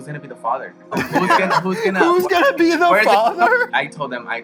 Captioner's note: laughs